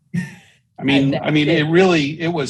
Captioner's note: chuckles